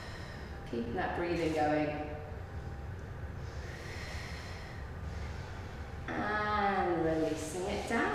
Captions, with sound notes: Keeping that breathing going. (breathing in and out) And releasing it down.